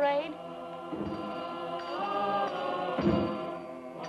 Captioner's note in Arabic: الناس يهتفون